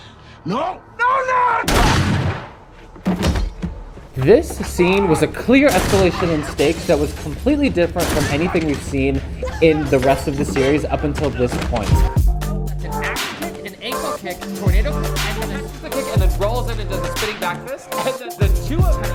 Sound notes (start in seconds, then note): 1.6 gun firing; 2.8 man thudding to floor